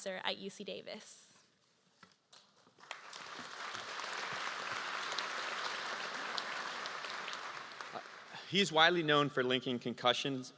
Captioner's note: applause